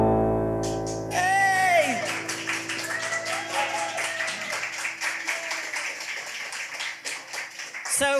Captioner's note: piano playing; audience cheering